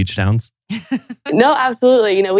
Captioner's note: laughs